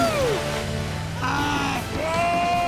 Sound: screaming

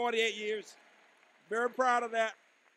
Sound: applause

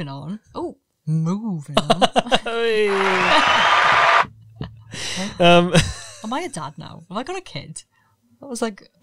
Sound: cheering sound effect

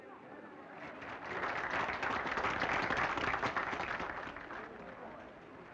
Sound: crowd applauding

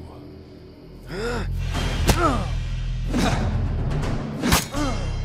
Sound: Batman grunts

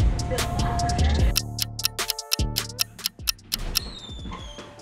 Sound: clock ticks

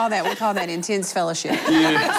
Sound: laughter

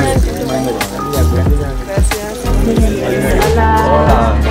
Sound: general chatter in English and Spanish

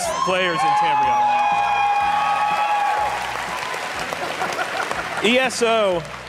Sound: audience cheering; audience applauding

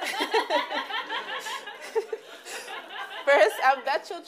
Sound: laughs

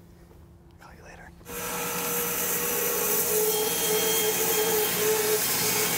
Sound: saw blade humming

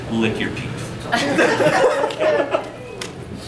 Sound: audience laughing

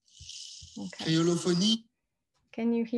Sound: non-english

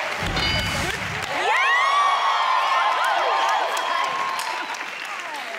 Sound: audience applauding

